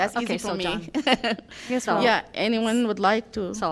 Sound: laughter

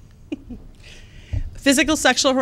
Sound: laughs

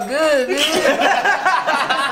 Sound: laughing

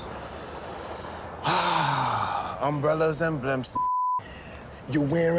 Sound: beep

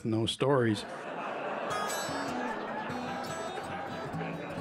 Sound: laughter; acoustic guitar

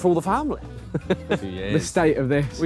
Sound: laughing

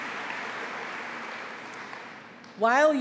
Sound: applause

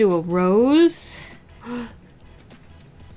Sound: gasps

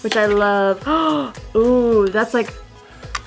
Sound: gasp

